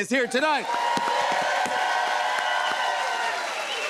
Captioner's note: cheers and applause